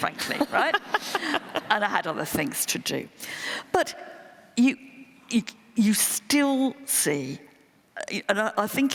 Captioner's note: laughter